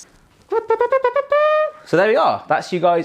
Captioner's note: mimics trumpet blowing